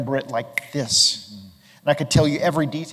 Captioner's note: snaps fingers